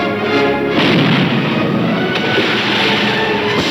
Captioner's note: cannon firing